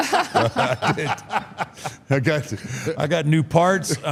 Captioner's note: laugh